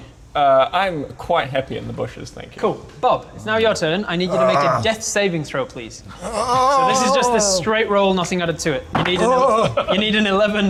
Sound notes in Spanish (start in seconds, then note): 6.1 Gemidos